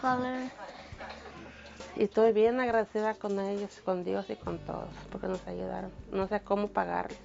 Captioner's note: mother, in Spanish